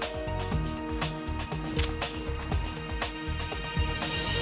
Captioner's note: smacks tree